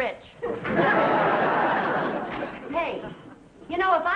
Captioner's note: audience laughing